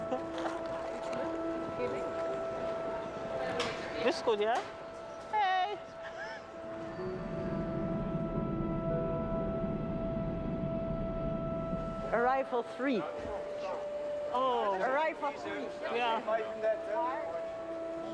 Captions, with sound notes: [SPEAKS DUTCH] HEY. ARRIVAL 3. OH, ARRIVAL 3. YEAH.